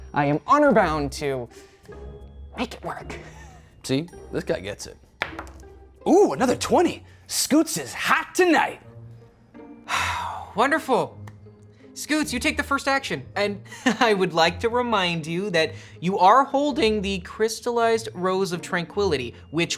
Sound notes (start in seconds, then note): 5.2 dice roll; 9.9 sighs